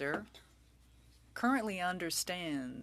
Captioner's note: speaking french